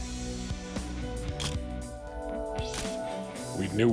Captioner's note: camera shutter click